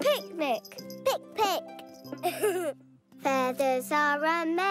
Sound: giggles

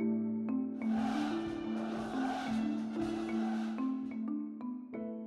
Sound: crowd cheering

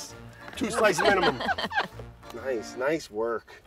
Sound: everyone laughing

